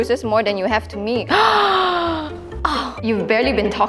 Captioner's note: gasp